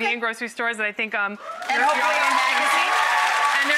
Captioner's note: audience cheers